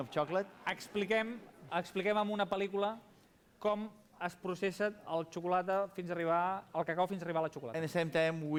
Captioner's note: non-english speech